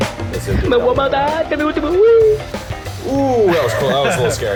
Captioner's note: animated sound; laughing